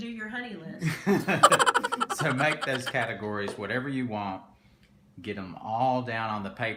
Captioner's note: laughs